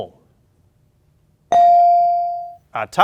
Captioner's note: ding chimes